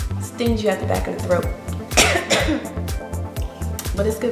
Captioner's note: coughs